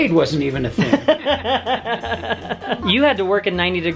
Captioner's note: laughing